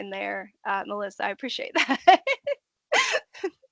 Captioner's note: laughing